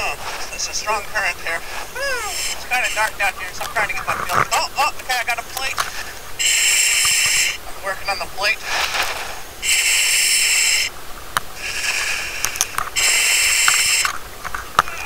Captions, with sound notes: Oh, it's a strong current there. It's kinda dark out here, so I'm trying to get my feel... Oh, Okay, I got a plate. I'm working on the plate. (breathing loudly)